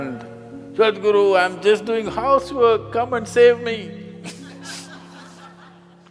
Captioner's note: laughter